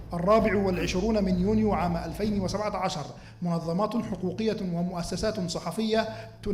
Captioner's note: male speaking in foreign language